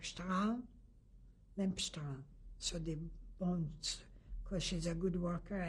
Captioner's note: german